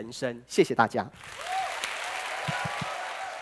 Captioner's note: applause